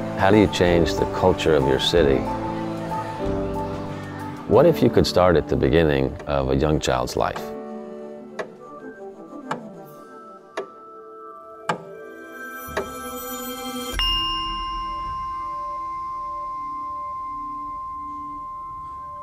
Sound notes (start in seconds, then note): 8.6 slow hammering; 14.4 melodic tone chimes once and sustains